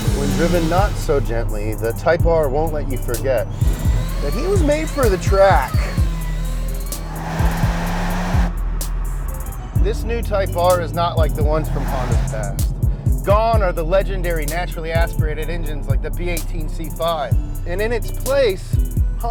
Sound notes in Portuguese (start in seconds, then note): 7.3 Acelerando e patinando